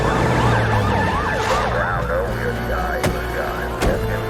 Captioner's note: police radio chatter